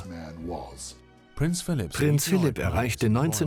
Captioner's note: voiceover